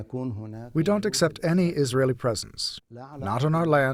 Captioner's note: through translator